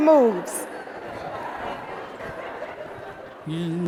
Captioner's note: audience laughing